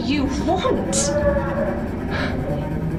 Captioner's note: distant crying